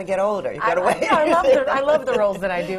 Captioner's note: laughs